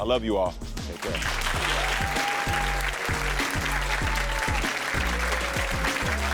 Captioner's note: audience cheering and clapping